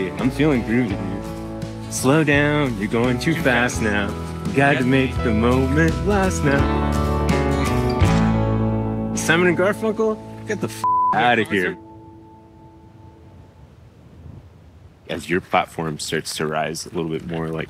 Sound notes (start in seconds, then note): 10.8 beep